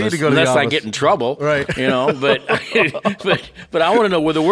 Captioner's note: both laughing